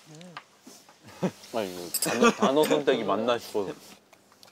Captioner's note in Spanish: Jajaja